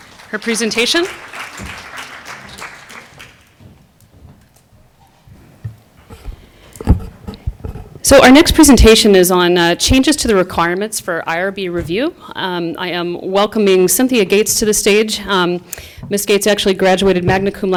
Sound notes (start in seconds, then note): 1.7 applause